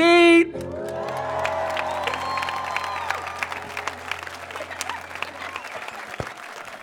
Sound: applause

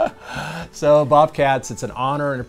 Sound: both laughing

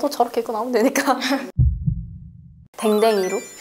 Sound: heart racing

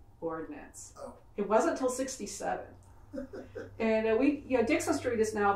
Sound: laughs

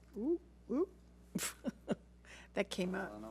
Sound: laughs

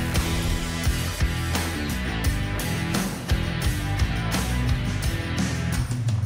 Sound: energetic music continues; electricity fizzing

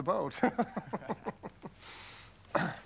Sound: laugh

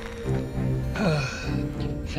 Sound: sighs in relief

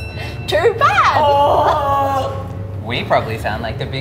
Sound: groaning

